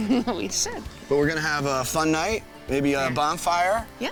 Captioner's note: laughs